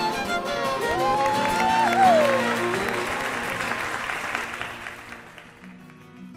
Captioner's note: applause